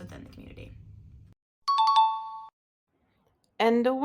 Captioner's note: ding sound